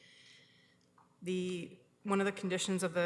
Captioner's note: none